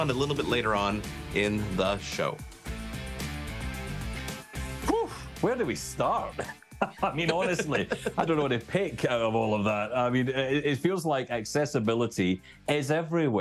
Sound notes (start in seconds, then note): 2.8 upbeat rock music; 6.3 chuckle